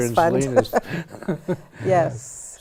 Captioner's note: laughs